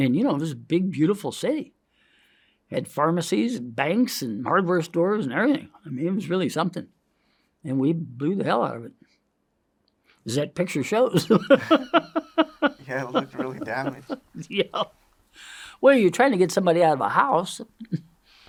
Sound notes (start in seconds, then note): 11.2 chuckles; 11.2 laughs